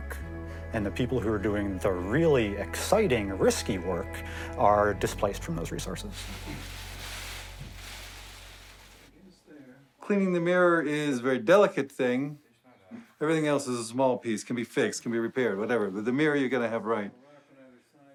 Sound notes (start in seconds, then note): 6.1 bag rustling